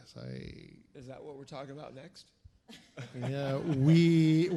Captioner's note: chuckles